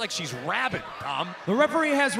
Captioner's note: crowd chatter